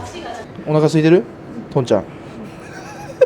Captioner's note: laughs